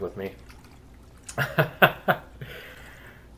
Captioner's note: laughs